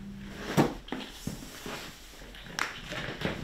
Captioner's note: rumbling in the background